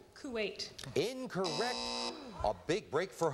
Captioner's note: buzzer